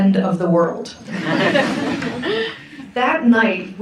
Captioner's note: audience laughs